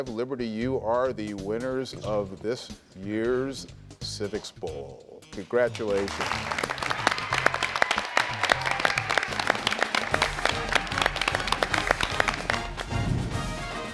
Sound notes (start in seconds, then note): 5.8 audience applauding and cheering; 11.0 dramatic music